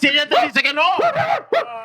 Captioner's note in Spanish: Ladridos de perro